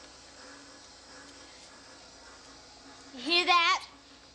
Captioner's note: machine hums